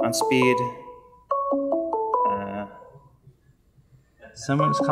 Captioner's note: beeping sounds